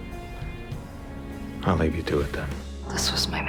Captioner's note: voiceover